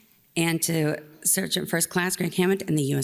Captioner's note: none